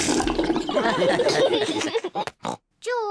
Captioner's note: all laugh